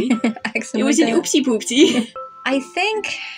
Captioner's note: laugh